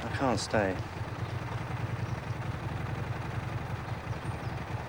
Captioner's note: engine idling